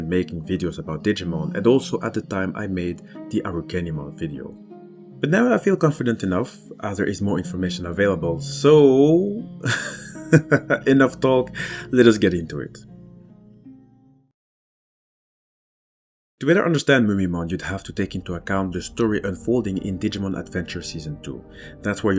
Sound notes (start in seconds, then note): 9.6 laughs